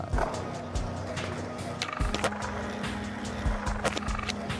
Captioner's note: skateboard rumbling